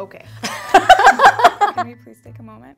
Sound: laughing

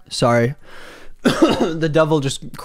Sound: coughs

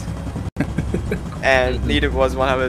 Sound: chuckles

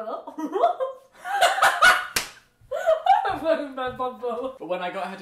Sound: both laugh

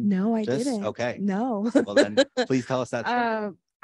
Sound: laughs

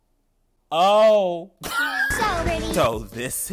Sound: man laughing

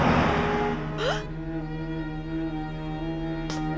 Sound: gasps

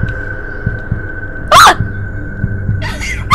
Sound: screams; laughs nervously

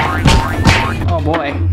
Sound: fists thudding

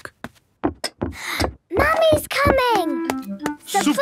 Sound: footsteps approaching

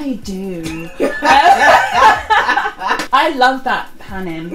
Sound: laughs

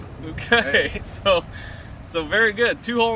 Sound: laughter

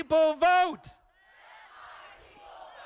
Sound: crowd

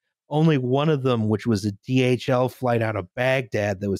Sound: none

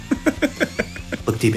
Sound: director chuckling

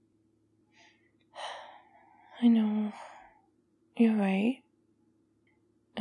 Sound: sighs

